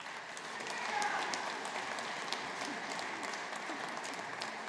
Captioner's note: audience applauding